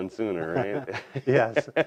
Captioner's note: laughs